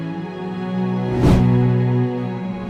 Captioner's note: whoosh